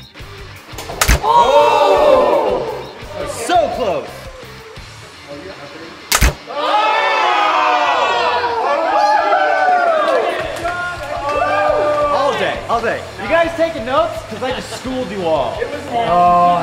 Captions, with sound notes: (upbeat music) (cheering) - So close! (cheering) - All day! All day! You guys taking notes? Cause I just schooled you all.